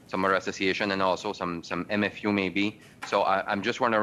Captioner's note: speaking French